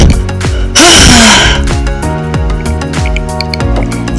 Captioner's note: moaning